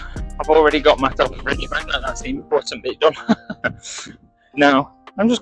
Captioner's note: laughter